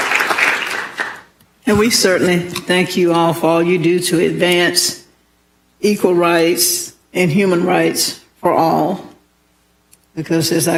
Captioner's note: applause